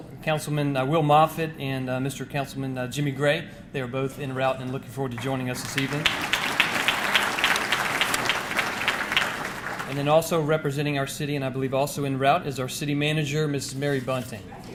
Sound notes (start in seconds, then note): 7.0 audience clapping